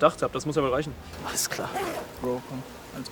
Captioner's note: scoffing